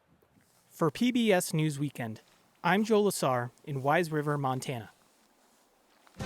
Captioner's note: voice-over